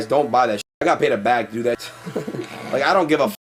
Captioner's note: both chuckle